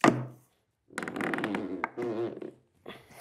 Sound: creaks

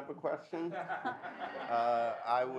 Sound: audience laughs

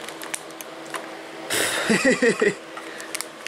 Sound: more laughing

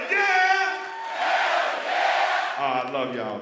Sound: crowd

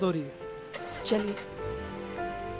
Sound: engine starts

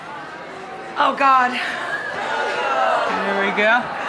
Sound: audience gasps

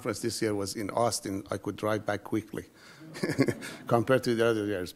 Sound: laughs

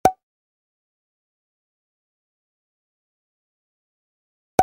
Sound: graphic popping

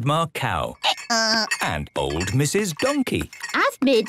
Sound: braying

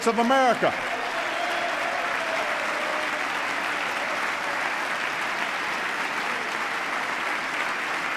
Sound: applause

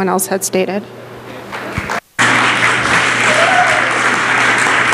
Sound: applause

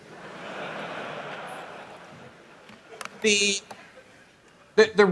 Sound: laughter

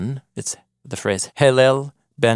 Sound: speaking foreign language

